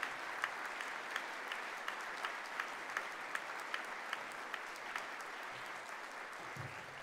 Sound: applause

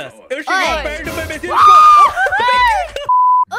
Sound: scream

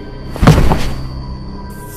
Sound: thud

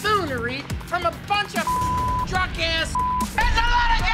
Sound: beep

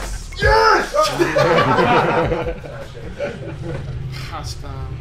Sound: everyone laughing

